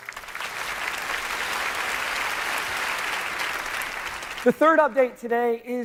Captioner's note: applause